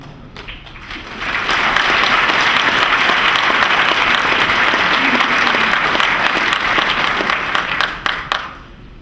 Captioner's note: applause